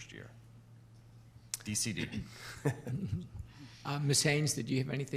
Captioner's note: chuckling